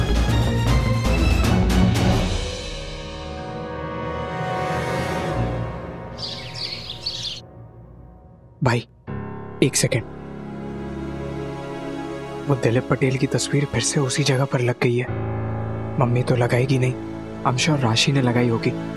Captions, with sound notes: [birds chirping] Ashwin, come with me. I saw Dileep Patel's photograph on the mantelpiece again. Mom wouldn't have placed it there. I'm sure Rashi did it.